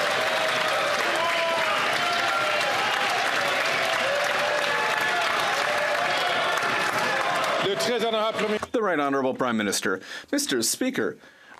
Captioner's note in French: applaudissements